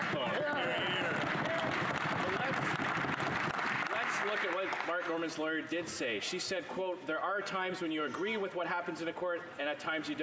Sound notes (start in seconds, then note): 6.1 some Applause